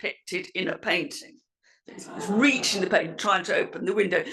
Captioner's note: laugh